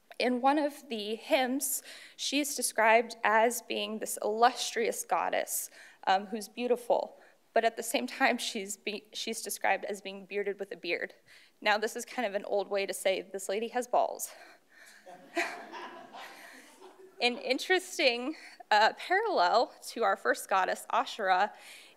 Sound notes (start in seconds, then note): 15.0 audience laughs